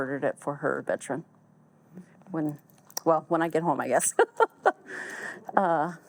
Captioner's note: laughs